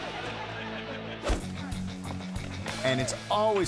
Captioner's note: audience laughing; air whoosh; rock music